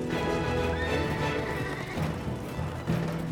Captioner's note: horses whinnying